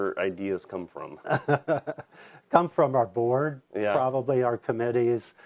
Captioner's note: laughs